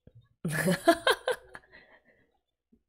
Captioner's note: laughs